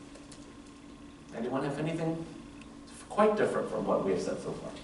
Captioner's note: none